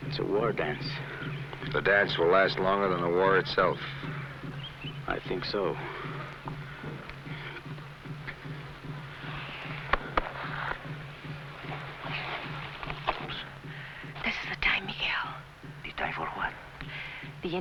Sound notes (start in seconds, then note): 9.8 hand patting